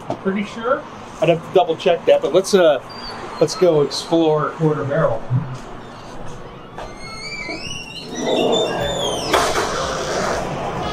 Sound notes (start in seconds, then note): 5.5 door squeaking